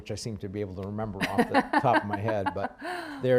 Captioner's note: laughs